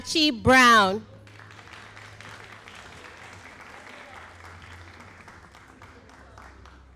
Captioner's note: all applauding